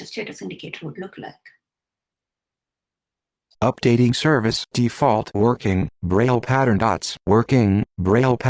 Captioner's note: synthetic speech